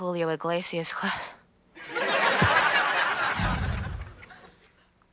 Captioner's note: audience laughing